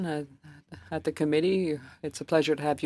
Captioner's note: speaking French